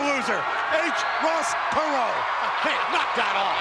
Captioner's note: laughs